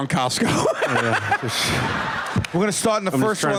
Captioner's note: laughter